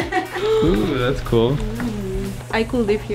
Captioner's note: laughs; gasps